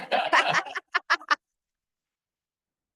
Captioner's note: laughter